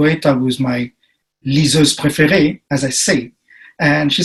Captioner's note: speaking in foreign language